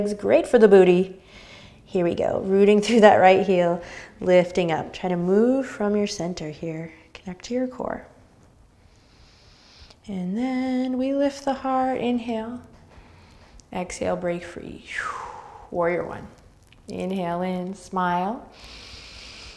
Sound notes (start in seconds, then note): 14.9 exhaling breath